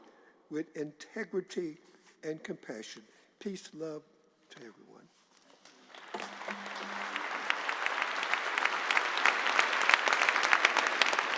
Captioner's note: applause